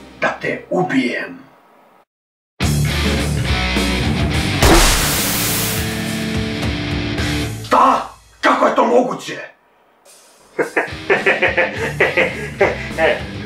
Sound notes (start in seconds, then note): 2.4 dramatic music; 4.6 bang; 4.7 static noise; 10.6 laughs confidently